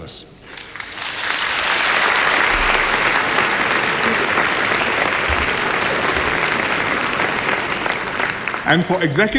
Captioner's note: applause